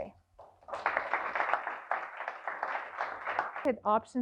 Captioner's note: applause